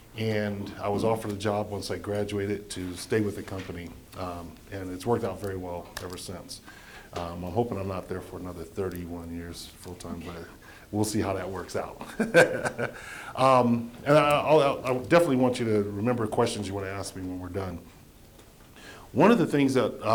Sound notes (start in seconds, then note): 12.0 laughing